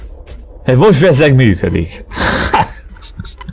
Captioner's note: laughs in anger